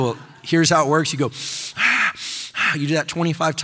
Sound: deeply breathing

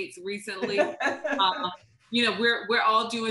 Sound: laughter

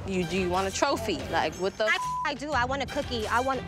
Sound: beep

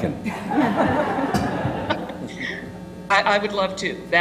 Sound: laugh

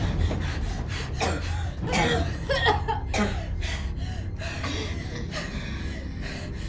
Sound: Heather and Morgan coughing

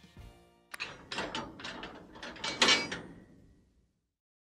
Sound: metal lock closing

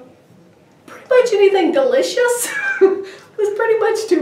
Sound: laughing

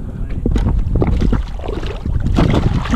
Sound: water splashing

